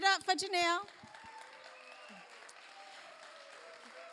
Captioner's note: applause